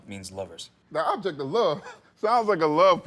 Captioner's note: laughs